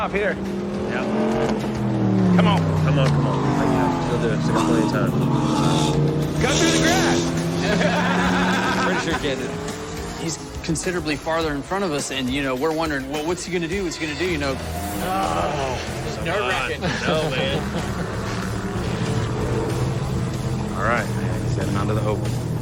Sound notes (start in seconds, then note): 7.6 laughter; 17.4 laughs